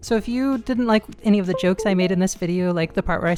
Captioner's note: USB accessory re-connecting